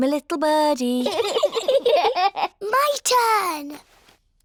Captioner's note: both giggle